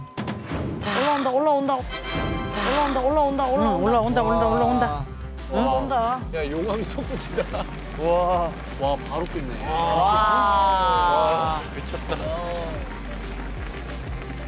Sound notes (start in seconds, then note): 3.6 boiling